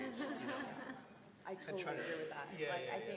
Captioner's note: laugh